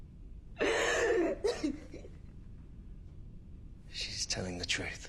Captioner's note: dark sobs